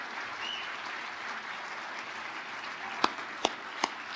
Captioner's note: audience applauding